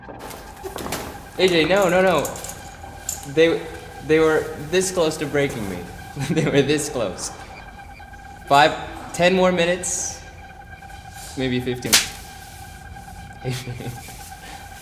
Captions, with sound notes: A.J., no, no, no. They were this close to breaking me. (laughing) they were this close. Five, ten more minutes, maybe fifteen. (slaps face) (laughing) A.J.!